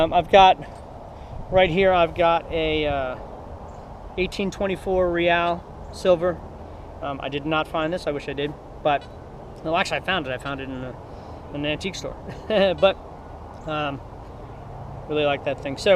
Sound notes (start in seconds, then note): 12.2 laughs